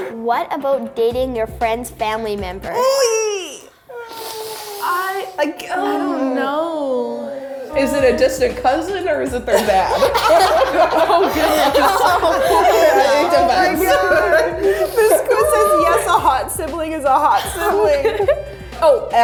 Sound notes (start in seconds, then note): 2.8 groaning; 10.1 laughing